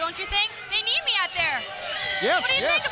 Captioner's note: crowd cheering